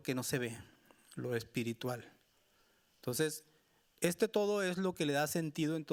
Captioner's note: speaking Spanish continues